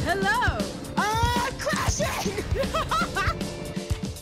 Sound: laughs

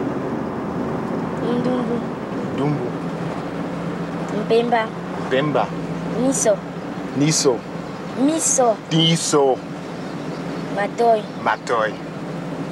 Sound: foreign language

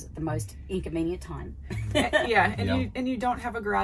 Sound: laughing

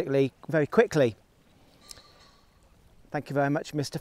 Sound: pheasant squawk

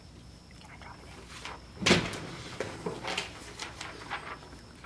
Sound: paper rustle

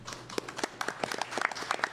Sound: applause

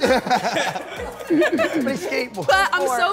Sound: challengers laugh

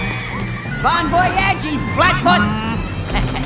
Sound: grumbles

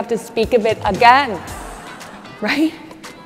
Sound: audience laughs

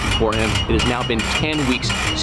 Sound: metal ratcheting

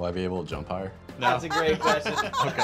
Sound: laughter

